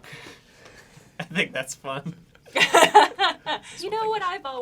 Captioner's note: laughs